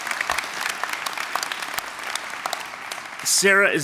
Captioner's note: applause